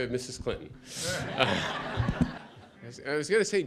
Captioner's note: laughter